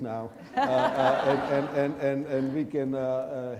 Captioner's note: audience laughing